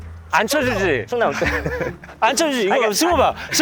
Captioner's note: chuckles